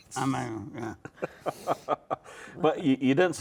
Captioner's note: laughs